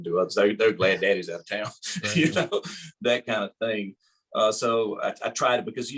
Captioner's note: laughing